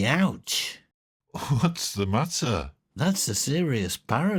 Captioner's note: laughs